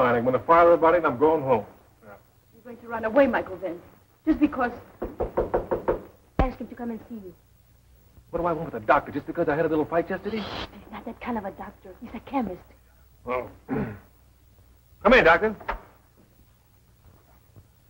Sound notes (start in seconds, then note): 5.0 knocking